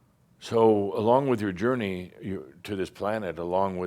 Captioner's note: none